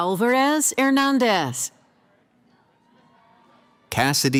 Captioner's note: cheering